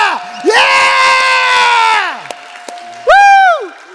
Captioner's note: audience cheering